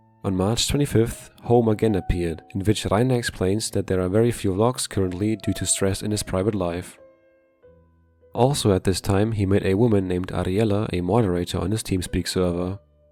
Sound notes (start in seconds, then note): none